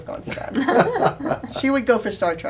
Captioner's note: laughter